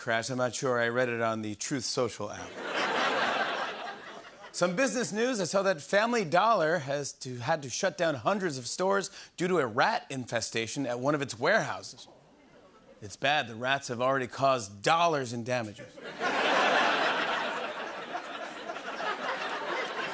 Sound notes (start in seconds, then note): 2.4 laughter; 16.0 laughter